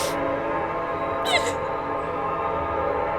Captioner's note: crying